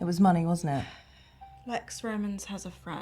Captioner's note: Jane sighs